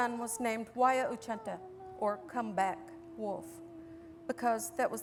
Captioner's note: non-english